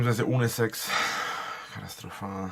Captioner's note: sighs